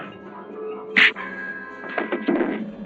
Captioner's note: whack